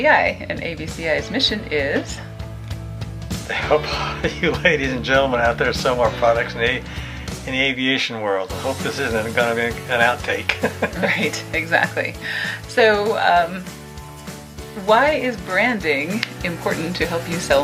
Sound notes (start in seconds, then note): 10.4 laughs